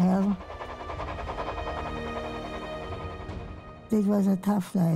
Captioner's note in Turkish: tren geçiyor